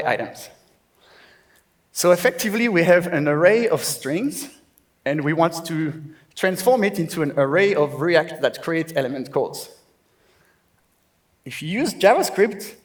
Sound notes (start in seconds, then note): none